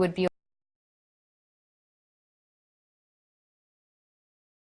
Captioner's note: audio cuts out